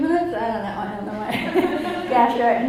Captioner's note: audience laughs